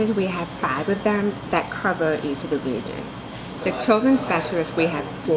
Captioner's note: none